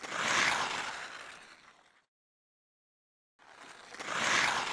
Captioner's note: skates scraping on ice